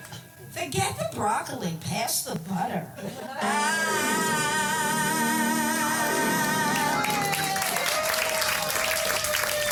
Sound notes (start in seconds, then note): 6.7 applause and laughter